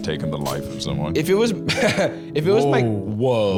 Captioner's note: laughs